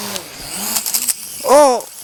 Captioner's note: drone swooping noise